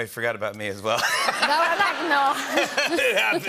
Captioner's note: laughter